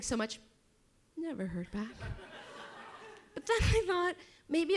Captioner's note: audience chuckles